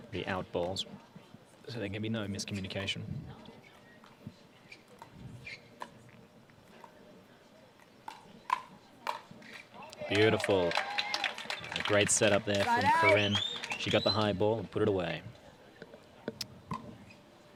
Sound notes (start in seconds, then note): 10.0 applause